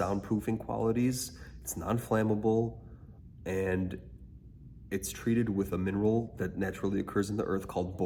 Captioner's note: sound dampening